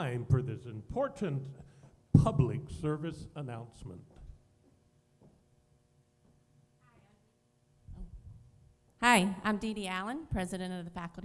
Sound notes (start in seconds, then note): none